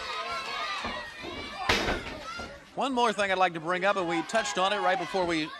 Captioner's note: crowd chatter